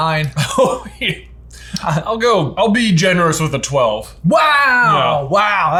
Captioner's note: laughs